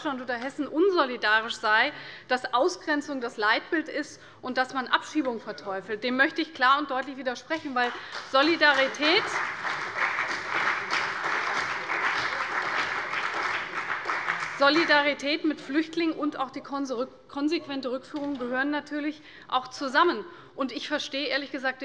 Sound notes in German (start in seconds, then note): 7.8 Beifall bei der CDU, dem BÜNDNIS 90/DIE GRÜNEN und der FDP